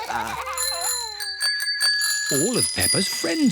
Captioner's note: all laugh; bells ring